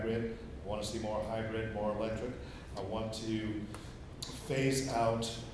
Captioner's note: none